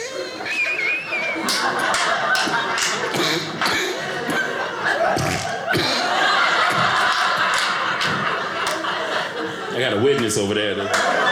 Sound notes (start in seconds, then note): 1.2 fake coughing